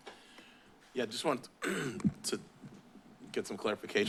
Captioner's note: clears throat